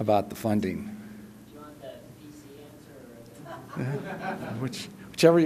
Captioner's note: laughter